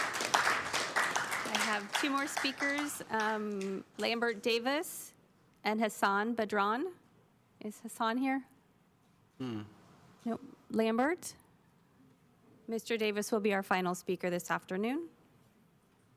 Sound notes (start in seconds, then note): 4.6 applause